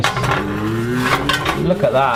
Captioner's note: pan scraping